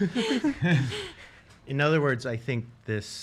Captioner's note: laughs